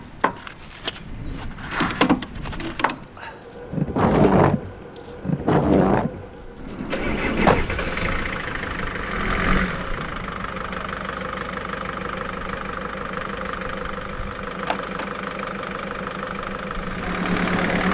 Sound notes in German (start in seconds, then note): none